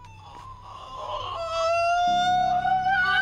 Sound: ABED begins shrieking

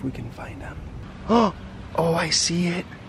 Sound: gasps

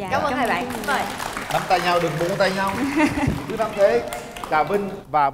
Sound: clap

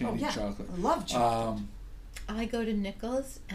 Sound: voiceover

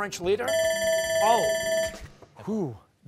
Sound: bell ringing

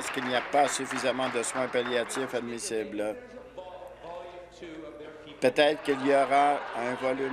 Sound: applause

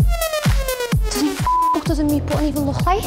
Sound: beeps

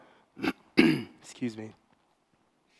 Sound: clears throat

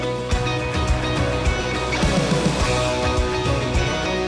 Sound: upbeat music; rush of water

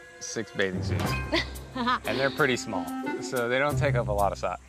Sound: laughing

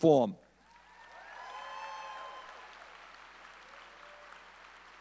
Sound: audience cheering

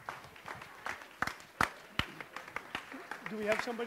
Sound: audience applauds

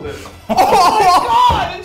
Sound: laughing

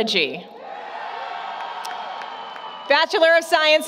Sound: applause, Cheering

